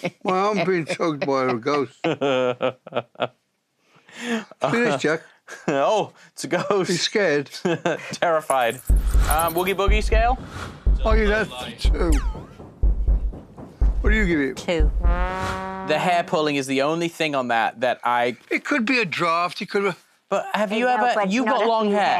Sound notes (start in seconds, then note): 0.0 laughs; 7.6 chuckles